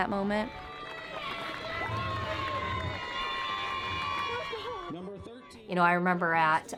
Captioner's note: crowd cheering